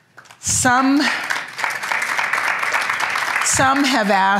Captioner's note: applause